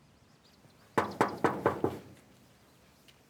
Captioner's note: knocking